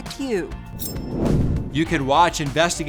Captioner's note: air whooshes